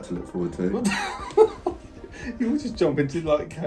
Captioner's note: laughs